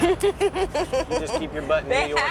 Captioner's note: laughs